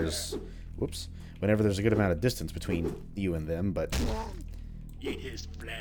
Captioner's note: thwack